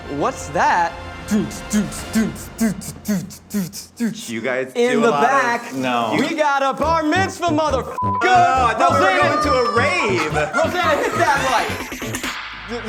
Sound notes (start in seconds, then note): 1.6 voicing club music; 8.0 beep